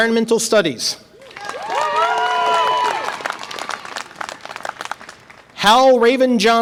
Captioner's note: audience applause and cheer